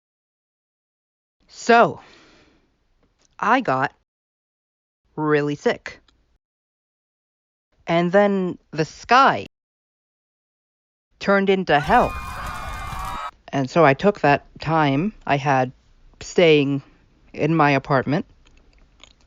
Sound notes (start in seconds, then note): 11.7 screaming